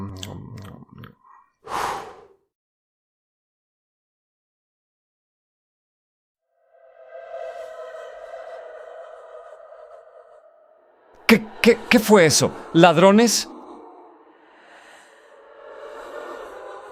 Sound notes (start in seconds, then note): 0.0 yawns; 1.3 blows out the candle